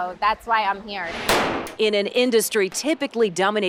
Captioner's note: gun firing